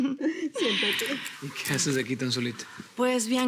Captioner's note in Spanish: Risas